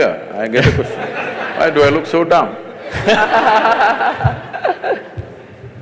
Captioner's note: laughter